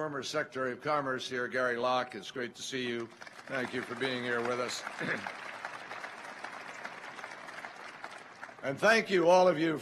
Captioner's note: applause